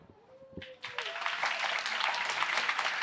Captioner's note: applause